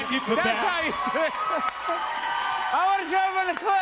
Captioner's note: laughs